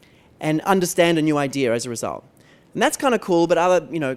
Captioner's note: none